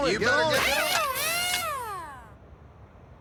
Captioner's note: machine whirring